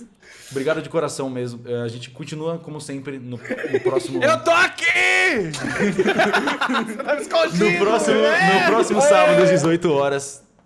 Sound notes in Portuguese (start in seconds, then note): 5.5 risos